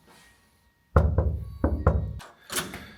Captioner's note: knock, knock